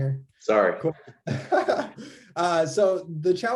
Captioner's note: giggles